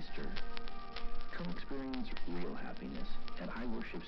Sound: radio Playing

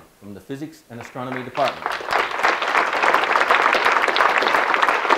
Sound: audience clapping

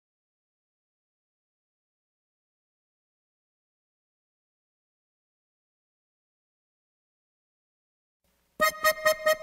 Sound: silencio

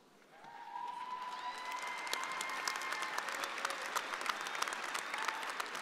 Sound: audience applauding

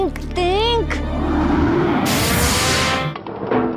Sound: whhooooOOOSH

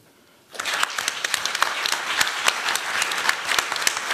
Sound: applause

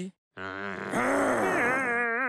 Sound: growl; whimper

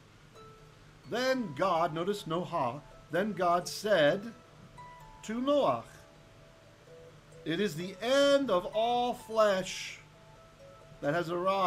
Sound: Hebrew

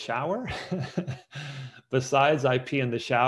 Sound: laughs

